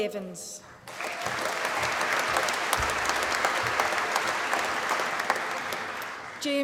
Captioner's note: applause